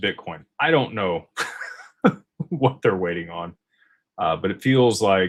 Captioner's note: laughter